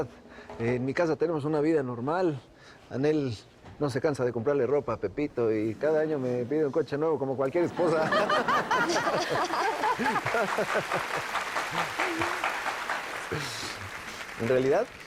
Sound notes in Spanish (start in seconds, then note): 7.6 Risas; 9.9 Aplausos